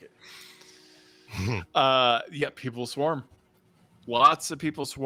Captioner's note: chuckles